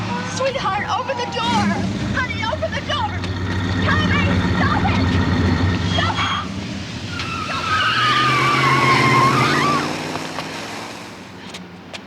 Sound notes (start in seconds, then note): 7.5 car screeching